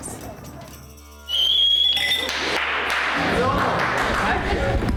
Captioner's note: whistles and claps